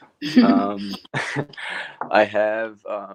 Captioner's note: laughs